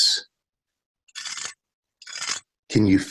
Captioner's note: cheese grater scrapes